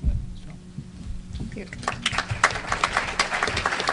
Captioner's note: applause